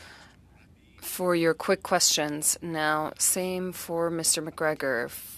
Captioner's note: speaking French